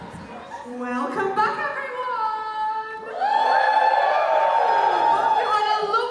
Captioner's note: audience cheers